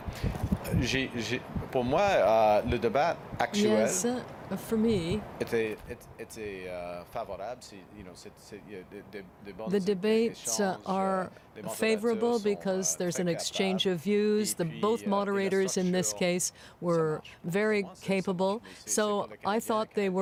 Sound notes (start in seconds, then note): 3.8 speaking French